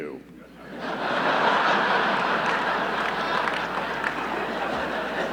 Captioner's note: audience laughing